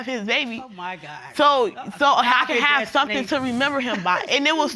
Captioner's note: scoffing